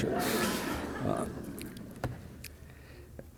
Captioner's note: audience laughs